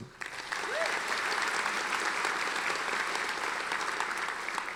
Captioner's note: audience applauding